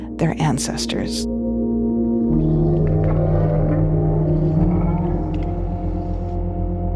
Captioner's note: ethereal music; whale calling